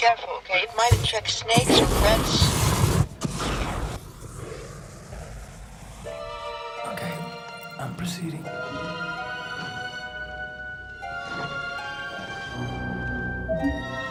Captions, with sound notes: Be careful okay? It might attract snakes or rats... [sound of improvised flame-thrower] [mysterious music] Okay. I'm proceeding.